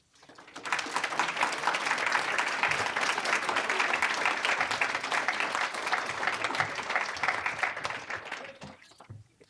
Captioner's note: applause